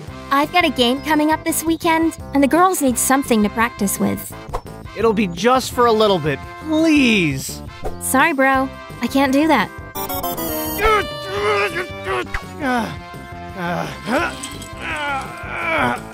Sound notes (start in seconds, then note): 10.0 game loss sounds, airhorn; 10.7 mumbling and seething; 13.5 grunting